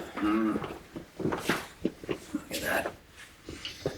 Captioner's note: grunts